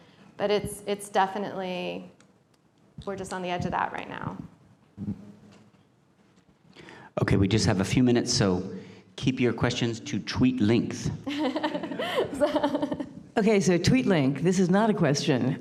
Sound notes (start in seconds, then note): 11.2 laughter